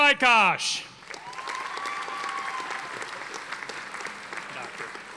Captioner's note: audience applauding